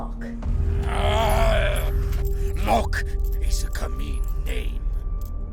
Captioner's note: growls